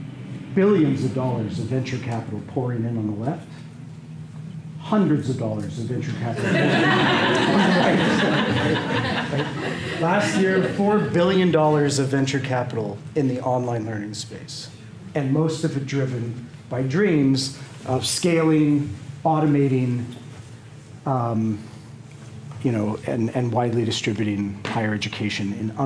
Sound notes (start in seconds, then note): 6.3 laughter